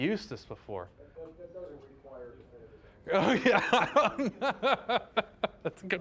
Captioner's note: laughing